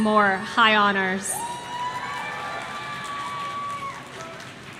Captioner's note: audience cheering